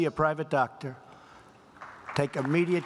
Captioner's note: applause